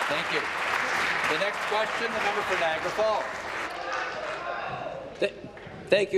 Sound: applause

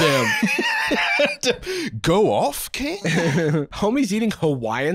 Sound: laughing

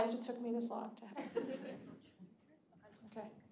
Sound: audience laughing

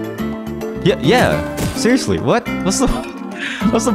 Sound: laughs

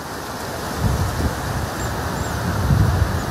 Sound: wind blowing and water flowing

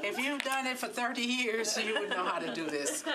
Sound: laughter

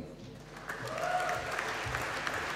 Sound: applause

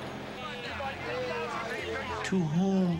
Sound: people shouting

